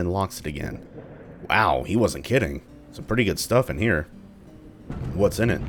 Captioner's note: thunder